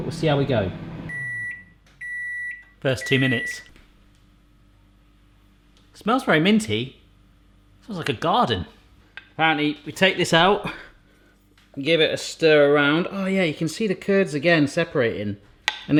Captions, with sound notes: But we'll see how we go. (microwave beeping) That's two minutes. Smells very minty. Smells like a garden. And we take this out and give it a stir around. Oh yeah, you can see the curds again separating